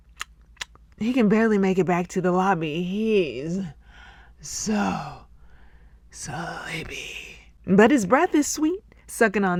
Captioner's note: smack, smack, smack